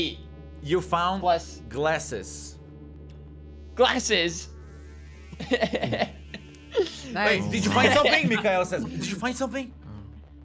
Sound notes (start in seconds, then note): 5.4 laugh